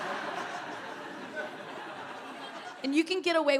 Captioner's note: audience laughing